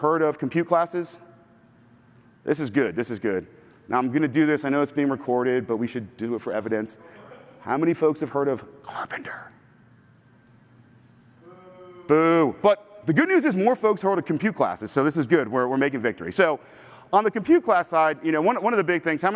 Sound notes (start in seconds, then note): 9.6 whispering